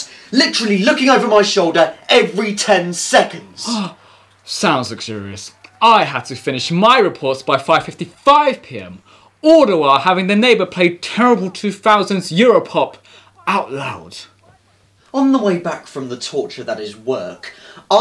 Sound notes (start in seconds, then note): 3.7 gasp